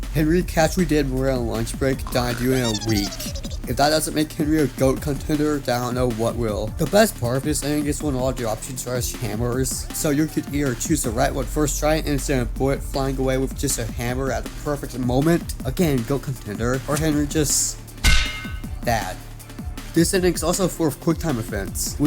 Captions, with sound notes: Henry causally did more in a lunch break, than I do in a week. If that doesn't make Henry a G.O.A.T contender, then I don't know what will. The best part of this ending is when all the options are just hammers. So, you could either chose the right one first try and send a bullet flying away with just a hammer at the perfect moment. Again, G.O.A.T contender. Or Henry just... (Bonk) that. This ending's also full of quick time events,